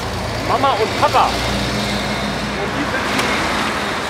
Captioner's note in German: Verkehrslärm